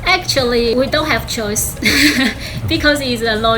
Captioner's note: laughing